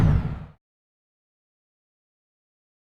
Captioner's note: silence